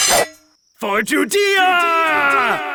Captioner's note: sword ringing; echoing